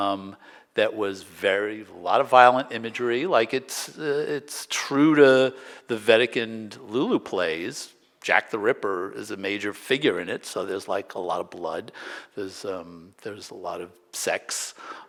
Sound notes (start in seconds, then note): none